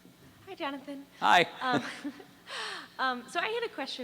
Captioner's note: voiceover